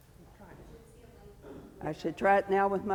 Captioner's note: sound tech speaks faintly